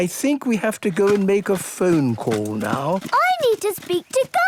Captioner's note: clicks